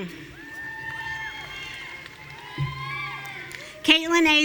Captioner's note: audience cheering